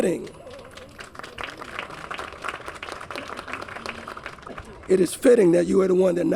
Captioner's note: applause